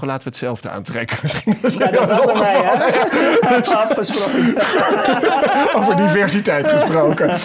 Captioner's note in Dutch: Gelach